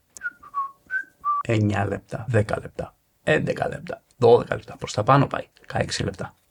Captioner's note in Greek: σφυρίγματα